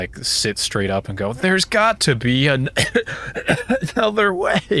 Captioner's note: coughing